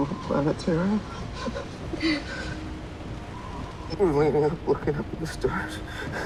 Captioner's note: laughs